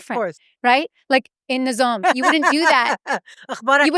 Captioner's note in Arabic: بالعربية